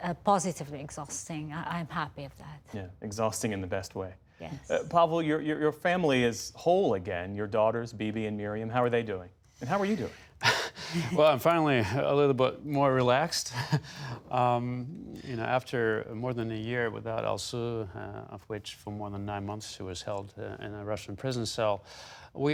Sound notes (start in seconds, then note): 10.5 laughter